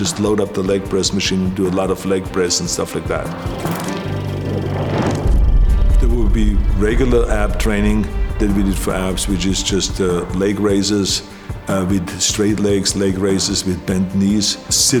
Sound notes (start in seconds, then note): 3.4 film rattling